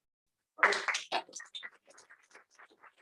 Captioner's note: applause